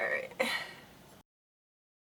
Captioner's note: laughs